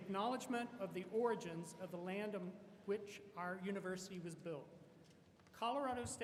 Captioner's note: none